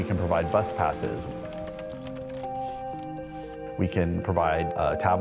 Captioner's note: keyboard clacking